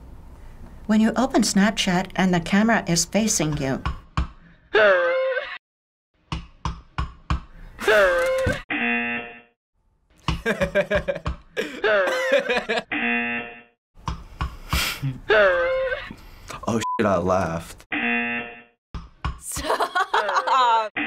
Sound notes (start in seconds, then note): 4.8 baby screams; 15.4 baby screams